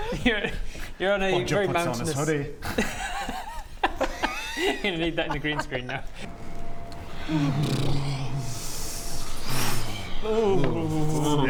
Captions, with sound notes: You're - you're on a very mountainous - Bodger puts on his hoodie *cosy giggles* You're gonna need that in the green screen now Brrrrrrr *cold noises* Ooooooooh